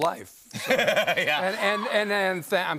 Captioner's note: laughs